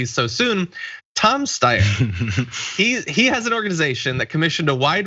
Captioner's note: laugh